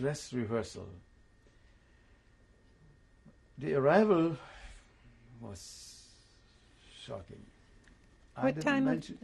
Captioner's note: pauses for 3 seconds